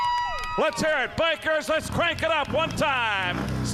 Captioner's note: crowd cheering